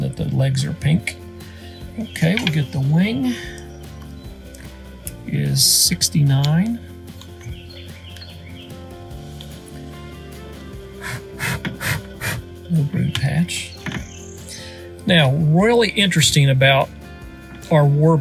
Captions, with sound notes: that the legs are pink, okay we'll get the wing is 69. (blowing) No belly patch, now really interesting about our warblers